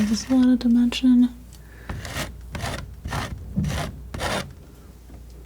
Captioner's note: scratching